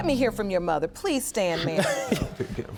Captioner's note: scoffs